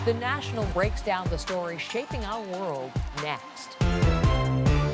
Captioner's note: cheers and Applause